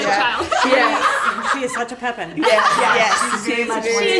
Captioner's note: laughter